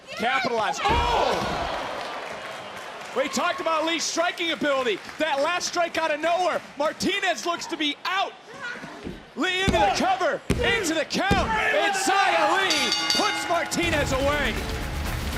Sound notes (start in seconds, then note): 12.4 bell rings